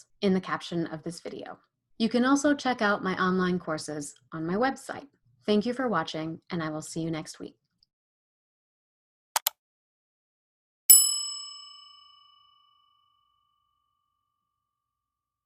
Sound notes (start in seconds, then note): 9.4 clicker clacking; 10.9 bell pings